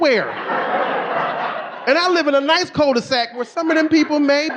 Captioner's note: audience laughing